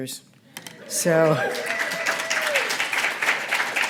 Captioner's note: applause